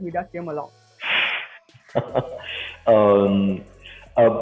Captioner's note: laughs